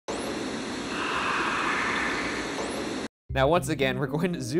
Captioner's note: staticy Voice